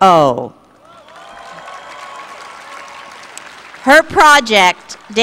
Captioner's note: applause